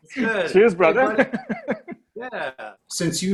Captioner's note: laughs; chuckles